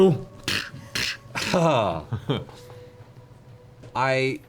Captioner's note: hammering noises